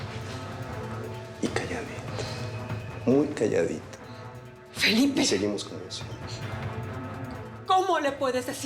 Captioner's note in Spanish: en voz baja